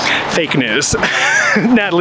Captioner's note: chuckling